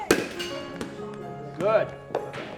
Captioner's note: onlookers chanting and clapping; metal bat hits ball